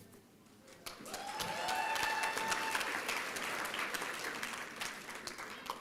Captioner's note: applause and cheering